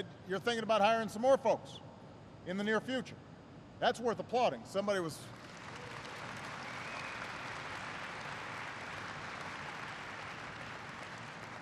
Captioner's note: applause